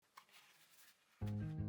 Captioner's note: paper rustling; hopeful guitar music